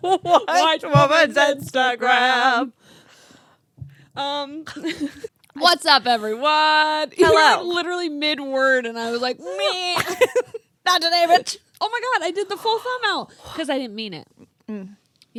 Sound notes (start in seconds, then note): 9.1 laughing